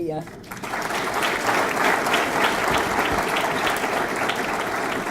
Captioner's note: audience clapping